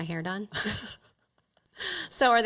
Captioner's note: chuckles